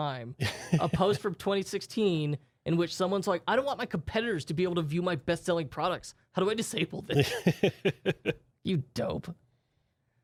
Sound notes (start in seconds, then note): 0.4 softly chuckling; 7.1 softly laughing